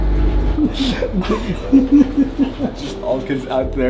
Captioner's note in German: beide lachen